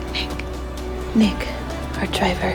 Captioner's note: voiceover